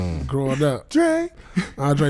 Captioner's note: laughing